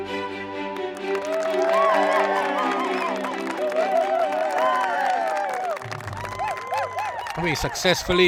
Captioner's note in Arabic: تصفيق